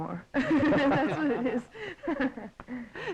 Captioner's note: laughing